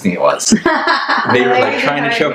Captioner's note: laughs